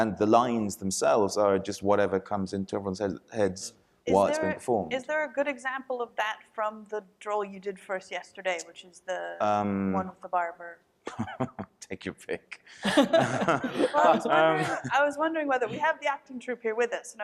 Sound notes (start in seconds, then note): 12.8 laughs; 12.8 panelists laughing